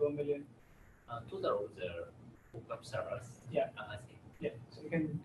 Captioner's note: audience member speaks from a distance